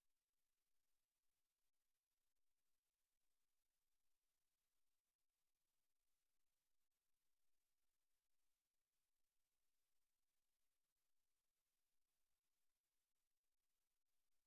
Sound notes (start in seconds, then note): none